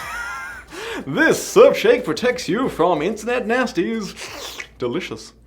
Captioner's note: slurp